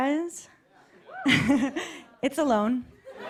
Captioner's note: laughs; laughter and applause